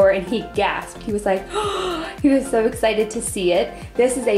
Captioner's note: gasping